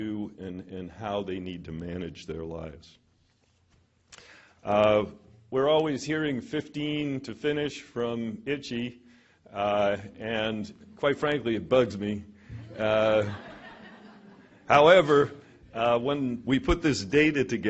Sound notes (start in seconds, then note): 12.5 laughter